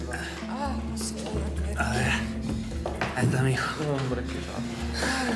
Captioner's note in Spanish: alba habla entre dientes